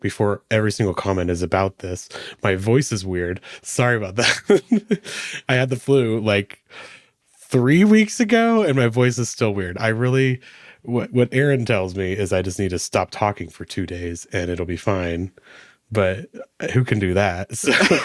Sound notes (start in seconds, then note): 4.1 laughing